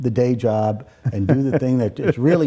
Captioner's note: laughing